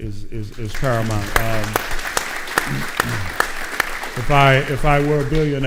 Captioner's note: audience applauding